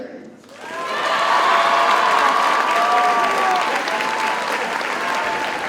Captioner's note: audience cheers and applauds